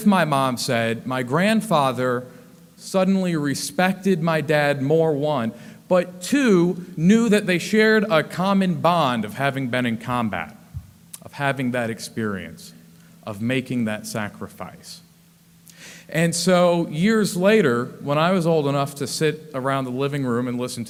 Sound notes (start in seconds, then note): none